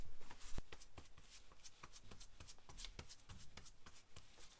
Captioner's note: brush rubbing